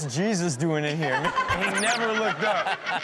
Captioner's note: Chanel and audience laughing; laughs